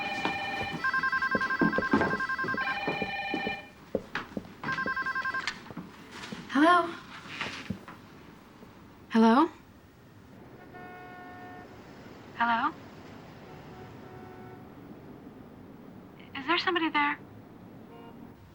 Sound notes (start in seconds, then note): 0.0 multiple phones ringing; 4.6 phone ringing